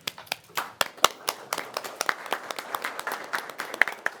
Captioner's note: members applauding